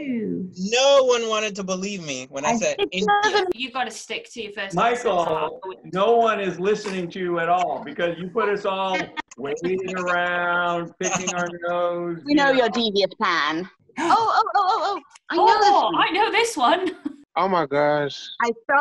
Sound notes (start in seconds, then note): 11.0 laughter